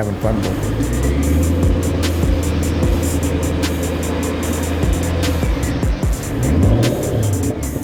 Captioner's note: engine revving; upbeat music